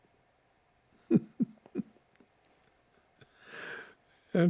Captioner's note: laughing